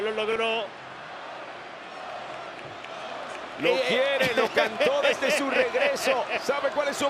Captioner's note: applause